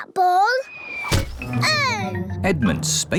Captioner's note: oinks; thudding